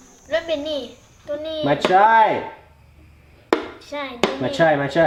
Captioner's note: foreign language